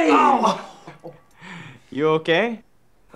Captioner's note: Ben moaning